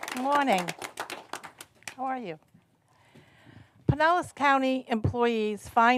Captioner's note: applause